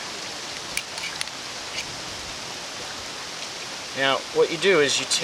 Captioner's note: wind whirring; metal clicking